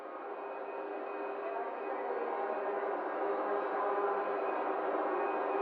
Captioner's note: sounds of machines and people talking